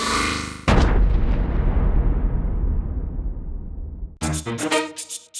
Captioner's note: boom!